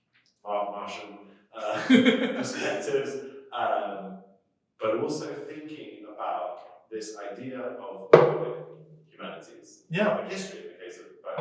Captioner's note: laughter